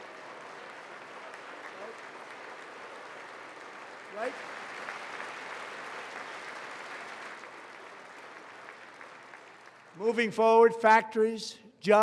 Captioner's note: applause